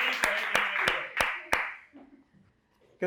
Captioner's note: applause